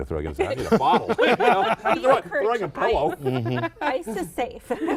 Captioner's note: laughing